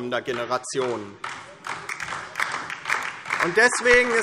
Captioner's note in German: Beifall DIE LINKE